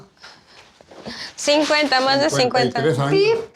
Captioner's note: speaking Spanish